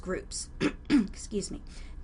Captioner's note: clears throat